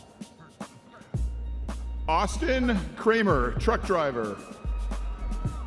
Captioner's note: audience members cheering